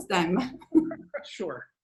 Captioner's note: chuckles